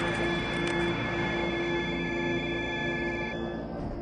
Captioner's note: electronic beeping